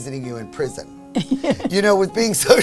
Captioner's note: laughing